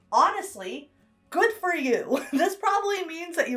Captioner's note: chuckles